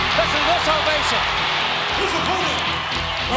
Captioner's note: audience cheers; upbeat music